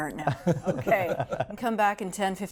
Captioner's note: laughing